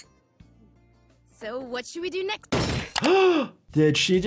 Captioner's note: head thuds